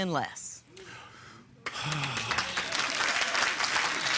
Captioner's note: breathes deeply; applause